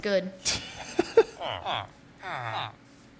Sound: laughs

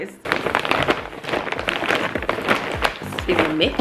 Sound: plastic rustling

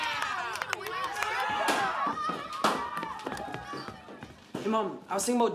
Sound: cheering

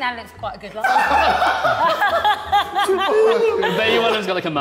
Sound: Sidemen laughing

